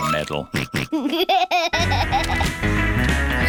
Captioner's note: snorts and laughs